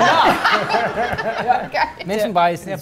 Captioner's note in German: Lachen